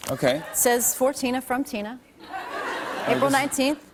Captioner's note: laughter